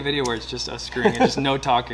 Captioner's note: laughter